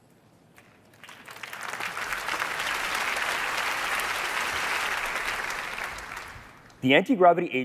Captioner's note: applause